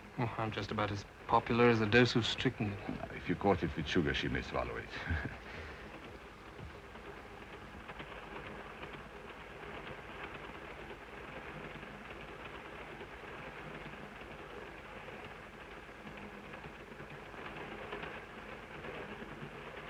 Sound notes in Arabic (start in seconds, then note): 5.0 تضحك; 7.0 صوت خشخشة القطار